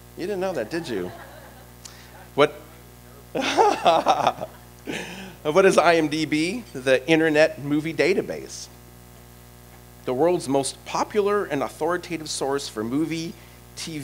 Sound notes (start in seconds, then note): 3.3 laughter